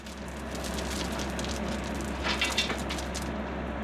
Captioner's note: whirring, clattering